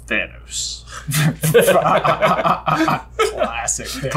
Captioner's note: laughs